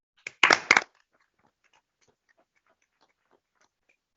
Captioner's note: applause